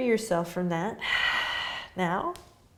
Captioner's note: exhaling